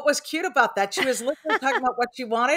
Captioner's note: laughs